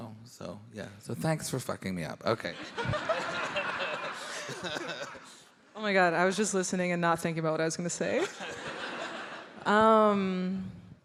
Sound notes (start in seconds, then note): 2.8 all laughing